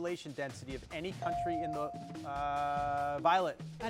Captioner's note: bell dings